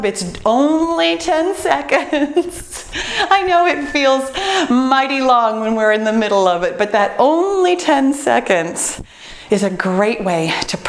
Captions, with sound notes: It's only 10 seconds. (laughs) I know it feels mighty long, (timer beeps) when you're in the middle of it. But that only 10 seconds is a great way to